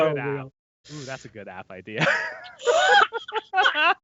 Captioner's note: laughing